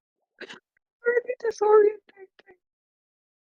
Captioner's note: laughing